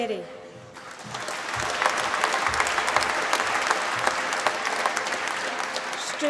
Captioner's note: applause